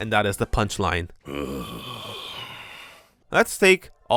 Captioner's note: sighing